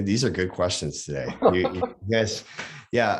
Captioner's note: laughs